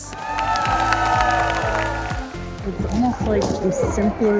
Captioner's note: audience cheers